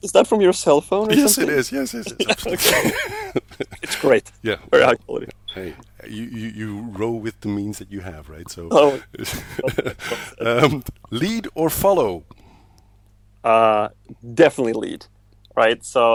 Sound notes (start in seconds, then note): 2.9 both laugh; 9.0 both laugh